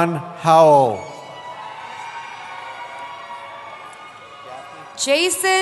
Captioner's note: cheering